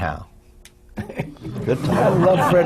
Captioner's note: laughter